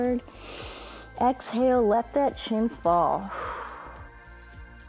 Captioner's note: inhales; exhales